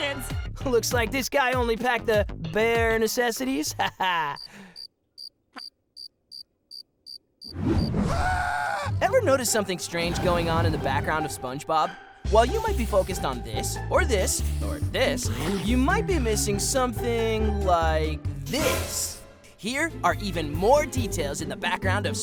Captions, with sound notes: Looks like this guy only packed the... bare necessities. Haha. [cricket chirping] [screaming] Ever notice something strange going on in the background of SpongeBob? While you might be focused on this, or this, or this, you might be missing something like this. Here are even more details in the background of SpongeBob